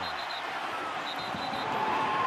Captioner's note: whistle